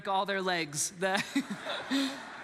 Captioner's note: congregants laughs